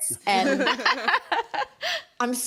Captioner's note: all laughs